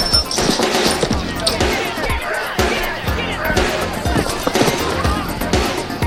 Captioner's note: men shouting